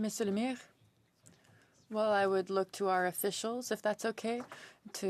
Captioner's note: speaking French